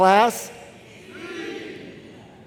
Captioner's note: crowd